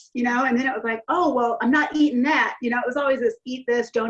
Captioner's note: none